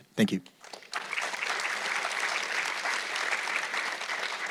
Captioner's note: audience clapping